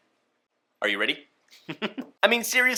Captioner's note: laughs